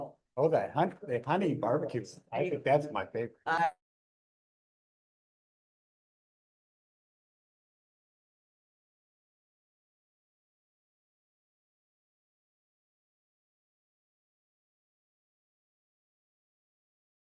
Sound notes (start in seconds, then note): 3.8 pause